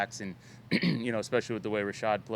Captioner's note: clears throat